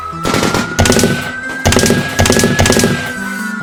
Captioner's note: guns shoot